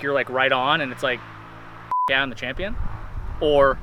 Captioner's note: beep